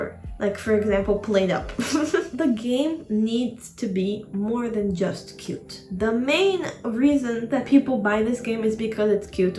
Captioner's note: chuckle